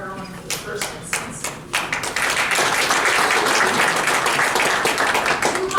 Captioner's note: applause